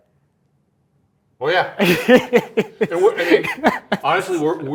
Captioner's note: laughing